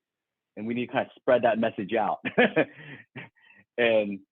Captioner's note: laughs